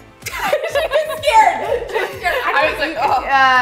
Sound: laughter

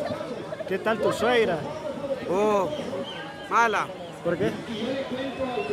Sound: speaking in foreign language

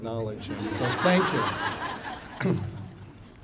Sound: audience laughing

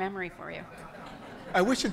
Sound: audience laughing

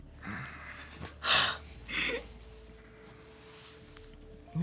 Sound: crying

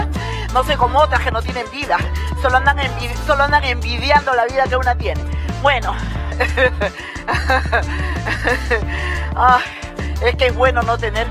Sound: laughs

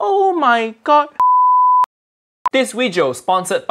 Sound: beep

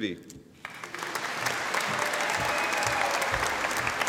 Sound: audience applauding

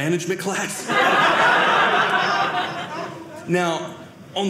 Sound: audience laughing

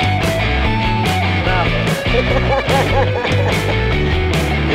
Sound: laughter

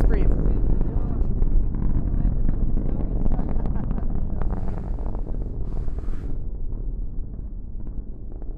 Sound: chatter and breathing as rocket fades away

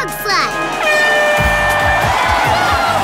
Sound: horn blowing; cheering

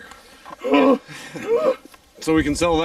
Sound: grunting sound

